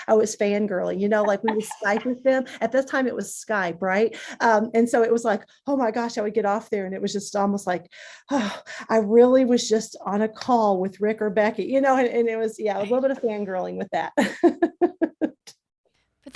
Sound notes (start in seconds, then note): 8.1 breathes deeply; 12.8 laughs